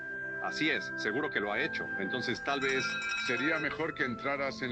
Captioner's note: door bell ringing